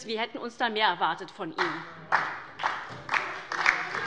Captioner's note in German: Beifall bei Abgeordneten der SPD und der LINKEN